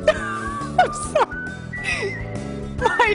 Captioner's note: laughter